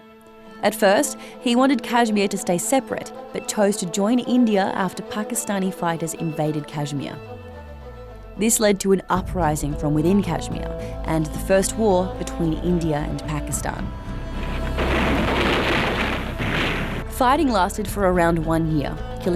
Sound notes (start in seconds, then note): 14.3 loud blasts